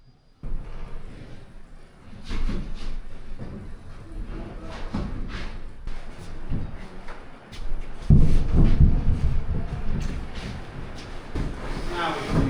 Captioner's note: footsteps